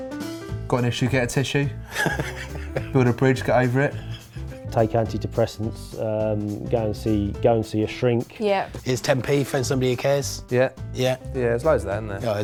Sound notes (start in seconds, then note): 1.8 laughs